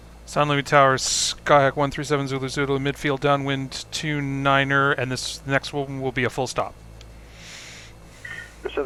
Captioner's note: me on radio